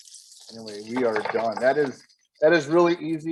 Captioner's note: oil sizzling